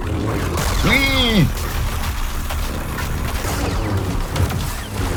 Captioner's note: grunting; lightsabers swinging